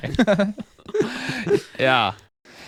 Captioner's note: laughing